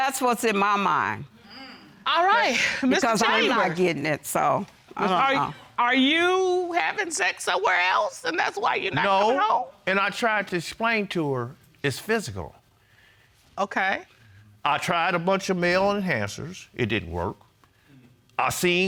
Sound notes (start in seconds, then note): 3.0 sighs